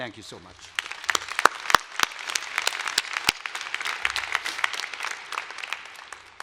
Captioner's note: applause